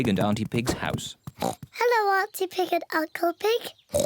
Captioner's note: oinks; oinks